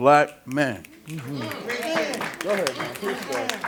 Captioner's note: snaps, claps, affirmaitive response